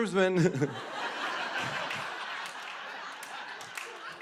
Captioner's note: laughter